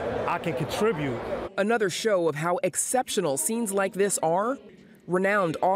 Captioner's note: voice-over